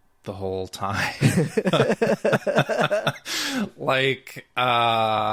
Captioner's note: both laughing